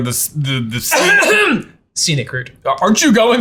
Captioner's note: clearing throat